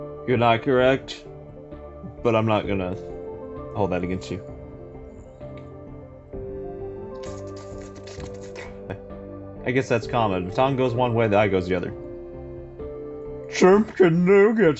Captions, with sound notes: You're not correct... But I'm not gonna hold that against you. [Slurping Sounds] I guess that's common, toungue goes one way the eye goes the other. "Chimken Nuggets!"